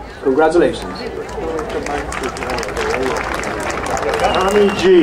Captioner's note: crowd applauding